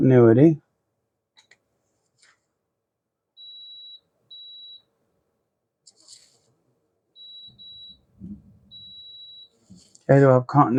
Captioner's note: silence